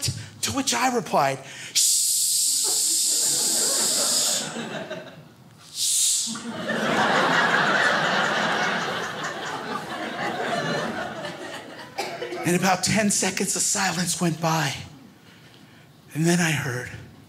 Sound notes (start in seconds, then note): 6.3 crowd laughs